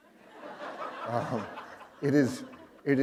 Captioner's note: laughter